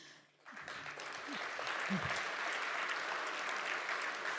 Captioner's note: audience applauds